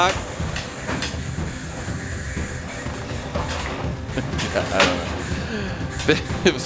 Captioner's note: laughing; upbeat Music